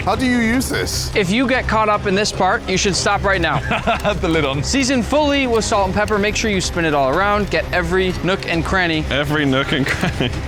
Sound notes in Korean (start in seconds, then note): 3.5 웃음